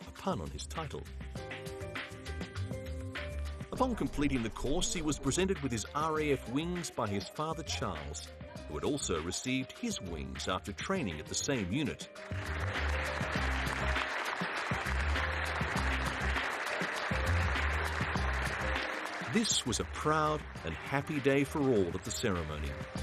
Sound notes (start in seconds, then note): 12.2 audience applauds; 12.5 pleasant music